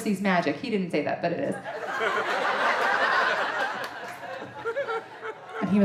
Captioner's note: audience laughing